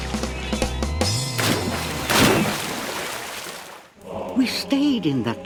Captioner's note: water splashes